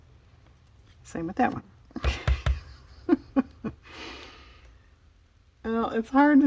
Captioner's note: laughs